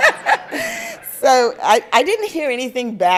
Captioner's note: crowd and speaker laugther